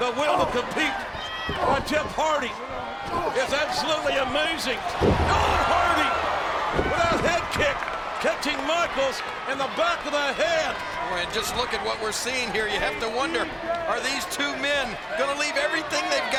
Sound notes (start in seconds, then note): 4.9 audience groans